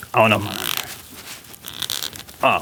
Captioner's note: creaking